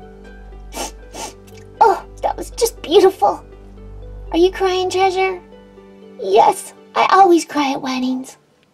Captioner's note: sniff sniff